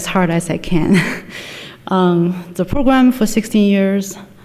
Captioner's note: chuckles